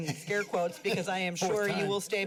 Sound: laughter

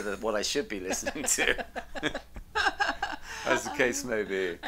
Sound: laughs loudly

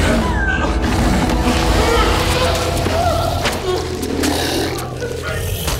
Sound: groaning, growling

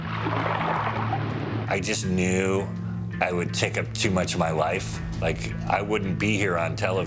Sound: water sound effect

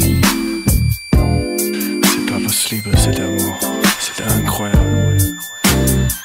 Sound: speaks foreign language

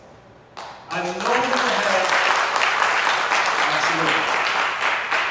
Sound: audience applauds

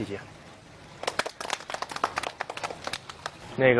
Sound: claps

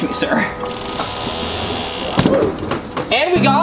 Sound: TV mount creaking

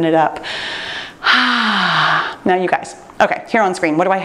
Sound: sighs

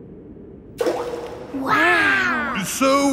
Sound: rock plops

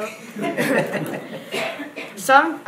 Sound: audience laughs

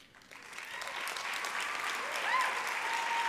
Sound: applause

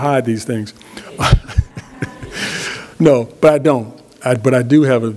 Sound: laughs

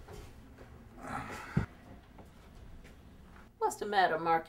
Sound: Marcus groans

